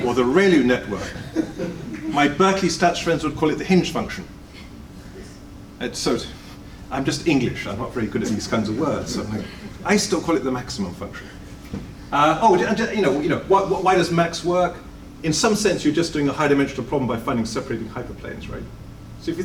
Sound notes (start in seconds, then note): 12.3 stutters